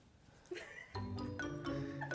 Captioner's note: producer giggles; gentle music